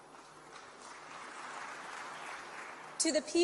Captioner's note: applause